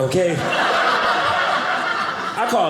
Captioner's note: audience laughing